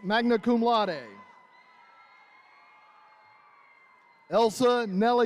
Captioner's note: attendees cheering